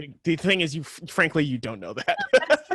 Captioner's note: laughs